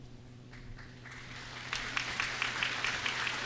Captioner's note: applause